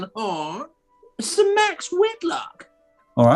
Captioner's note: old crone voice